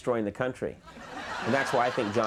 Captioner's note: laughing